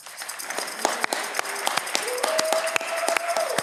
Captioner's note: audience cheering